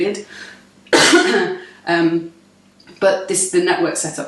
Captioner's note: coughs